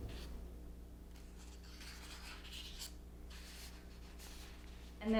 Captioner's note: pages turning